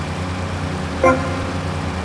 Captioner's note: engine revving; beeping